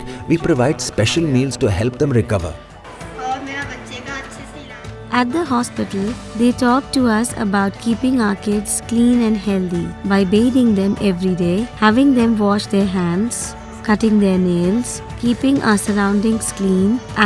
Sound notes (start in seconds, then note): 2.9 speaking in foreign language